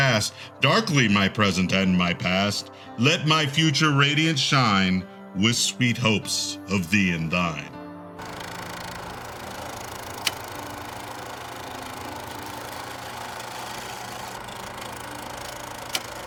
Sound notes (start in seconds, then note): 7.8 piano fades; 8.2 sounds of old time film projector